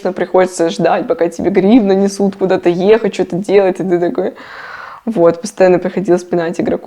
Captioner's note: sigh